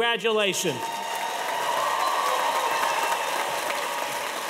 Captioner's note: cheers and applause